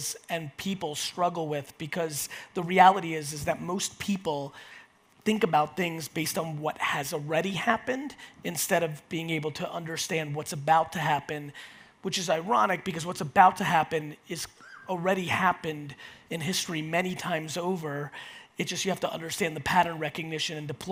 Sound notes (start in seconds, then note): none